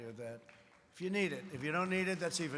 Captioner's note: applause